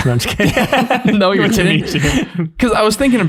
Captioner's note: all laughing